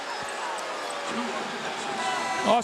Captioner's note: scattered booing